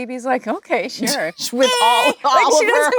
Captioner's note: Lisa squeaking